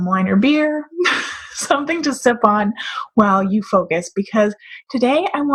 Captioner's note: laughs